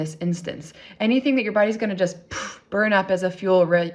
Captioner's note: exhales